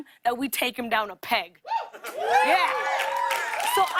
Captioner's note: cheers and applause